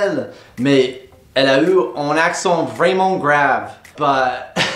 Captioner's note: imitating accent